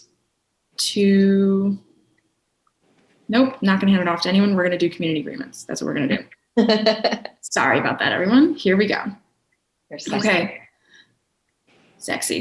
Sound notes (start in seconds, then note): 6.6 chuckling